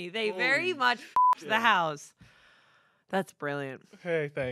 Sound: beep

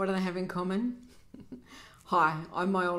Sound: chuckles

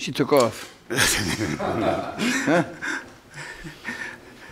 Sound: laughing

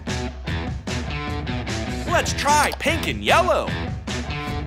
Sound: none

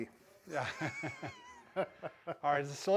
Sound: both laughing

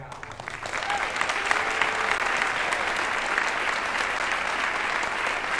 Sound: audience applauding

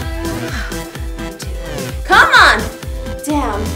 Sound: exhales

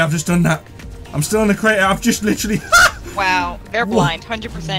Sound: laughs

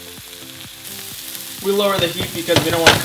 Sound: sizzle

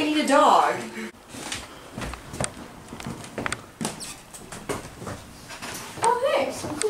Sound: walking clicks

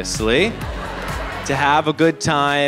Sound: audience laughs

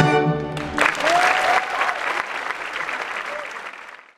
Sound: audience applauding

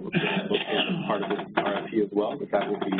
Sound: man clears throat

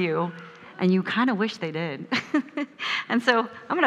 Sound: laughs

